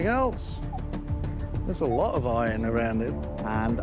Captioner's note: beeping